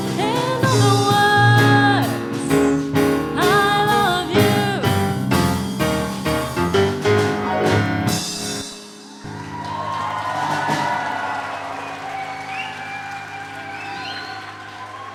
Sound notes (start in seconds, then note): 9.0 cheering and applause